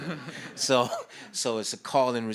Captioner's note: audience laughs